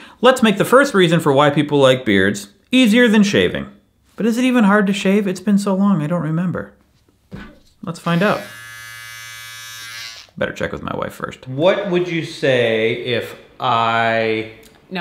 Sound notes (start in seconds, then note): 8.0 clippers buzzing